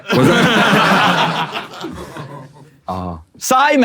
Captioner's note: people in room laughing